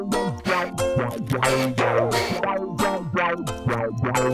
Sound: breaths loudly

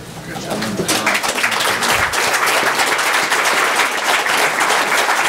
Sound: audience applauds

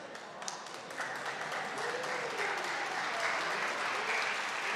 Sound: audience clapping

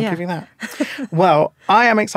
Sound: laughing

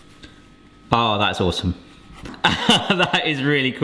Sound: laughs

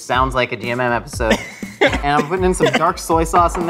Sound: laughs

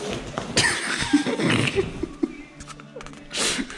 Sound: laughing

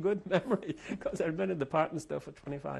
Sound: laughs

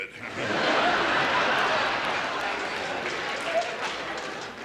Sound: audience laughs

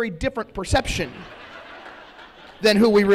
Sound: laughter

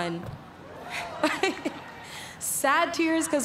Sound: laughs

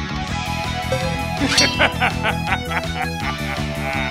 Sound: laughter

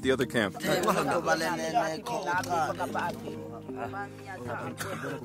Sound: men speaking foreign language

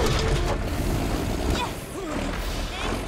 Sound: engine rumbles

